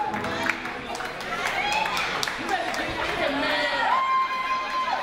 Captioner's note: audience cheers